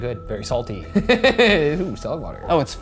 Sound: laughing

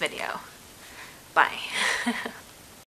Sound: haha

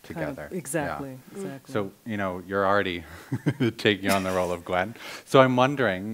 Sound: laughs; laughing

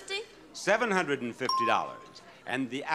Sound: bell ringing

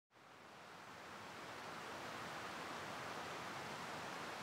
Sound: wind rustling

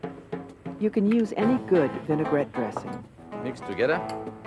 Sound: voiceover

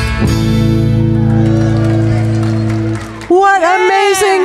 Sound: audience clapping

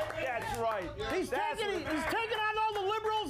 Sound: audience cheering

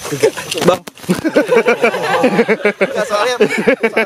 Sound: nervously laughing

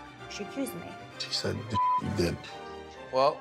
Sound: beep

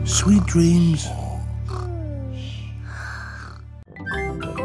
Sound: snoring

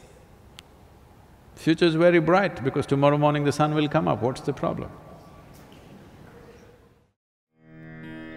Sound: laughs

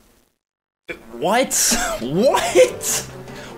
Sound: laughing

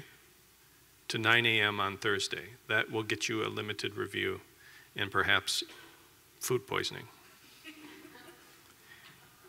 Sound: laughter

